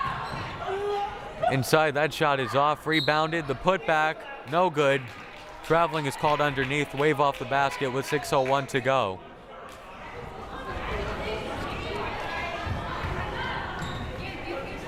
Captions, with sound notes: Inside, that shot is off. Rebounded, the put-back no good. Traveling is called underneath, wave off the basket with 6:01 to go. (crowd murmuring)